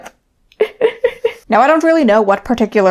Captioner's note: laughing